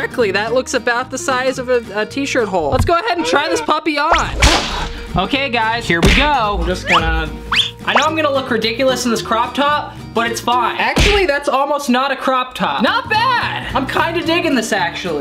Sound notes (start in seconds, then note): 6.0 punching noise